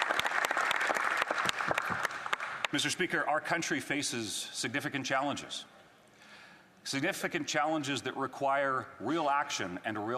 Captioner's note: applause